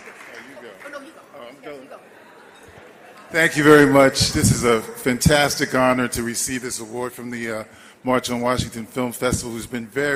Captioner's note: applause